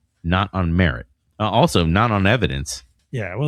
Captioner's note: uh